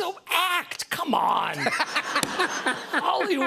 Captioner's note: laughter